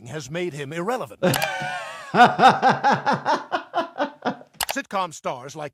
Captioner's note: laughs